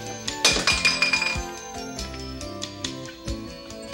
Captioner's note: glass clinks